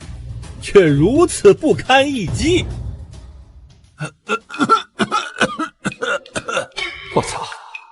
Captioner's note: cough cough cough